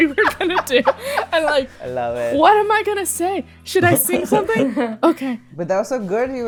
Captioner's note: laughter; laughter